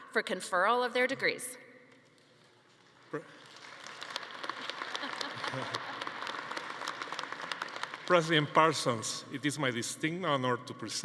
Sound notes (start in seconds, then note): 3.1 attendees applauding; 5.0 laughing